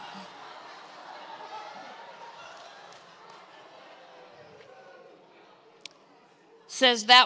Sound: congregation laughs

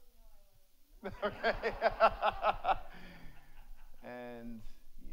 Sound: audience laughs; laughs

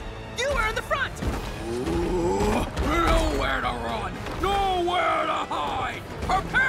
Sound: groaning

